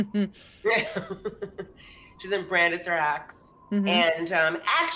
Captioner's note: chuckles